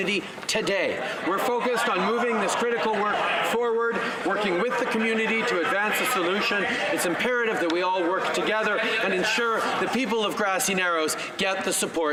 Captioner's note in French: voix de l'interprète